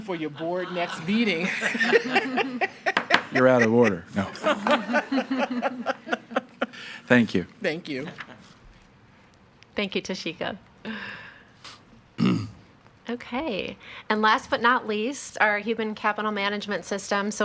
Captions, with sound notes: for your board next meeting. (staffs laugh) - You're out of order, no. (staffs laugh) Thank you. - Thank you. - Thank you Toshika. (person coughs) Okay, and last, but not least, our human capital management system.